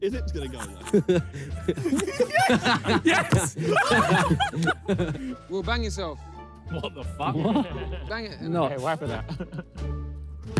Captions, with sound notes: - Is it gonna go, though? - Yes. Yes. [players laugh] - Well, bang yourself. - What the f*ck? - Bang it. - Whack it out.